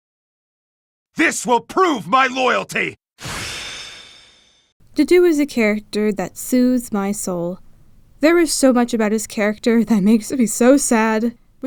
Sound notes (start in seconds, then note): none